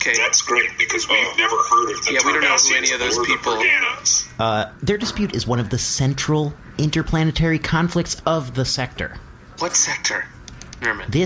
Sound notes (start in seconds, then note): none